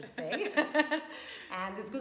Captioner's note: both laugh